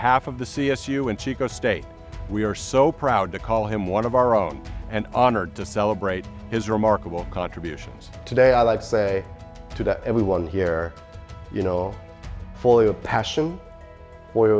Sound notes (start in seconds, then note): none